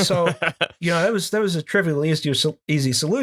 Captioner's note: laughter